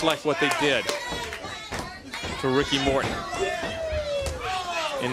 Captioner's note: crowd cheering